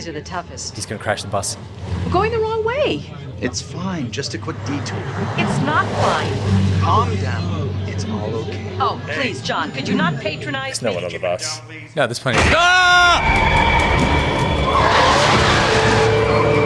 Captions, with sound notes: - He's going to crash the bus... - There's no-one on the bus... - That explains - (TWIN SCREAMING)